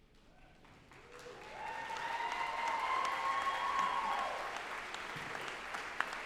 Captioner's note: group applauding and cheering